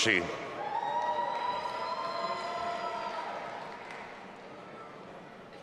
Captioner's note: audience applauding and cheering